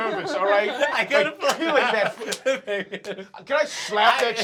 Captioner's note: trying to speak but laughing